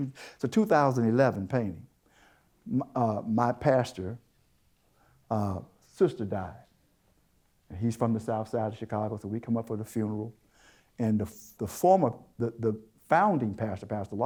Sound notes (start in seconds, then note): none